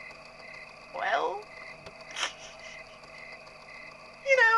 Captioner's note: giggles nervously